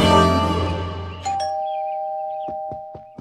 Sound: doorbell

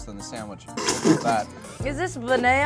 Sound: laughing

